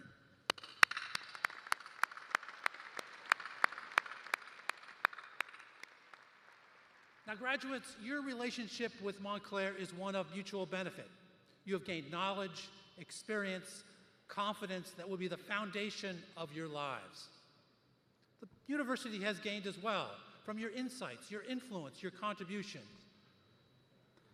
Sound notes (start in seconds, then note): 2.1 applause